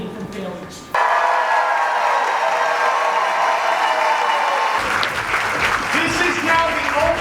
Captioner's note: crowd cheers